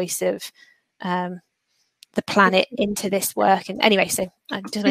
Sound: erm

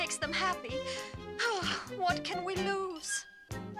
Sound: sighs

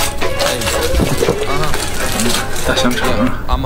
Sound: salivating

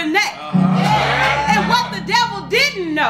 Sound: congregation cheers

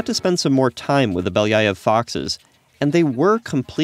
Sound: speaks foreign language

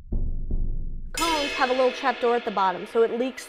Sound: gong Ringing

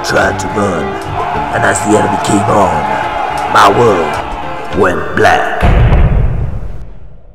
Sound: explosion sound effect

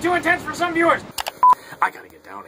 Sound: beeping

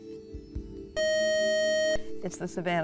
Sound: buzzer

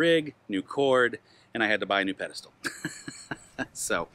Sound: laughs

